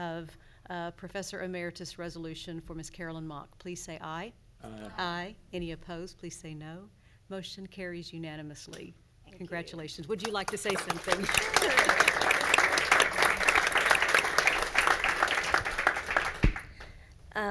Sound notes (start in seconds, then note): 13.0 everyone applauds